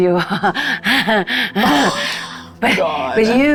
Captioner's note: laughs